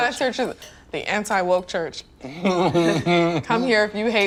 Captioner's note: laughing